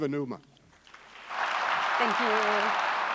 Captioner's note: clapping